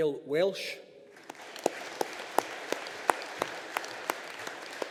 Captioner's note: audience applauding